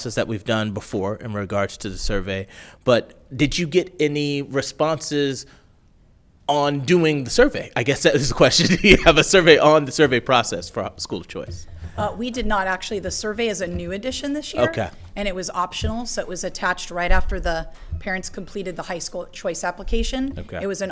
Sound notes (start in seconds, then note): 8.3 laughs